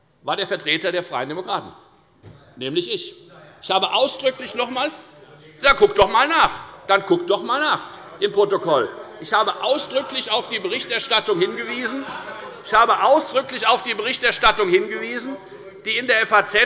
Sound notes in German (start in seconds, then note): 12.0 Zurufe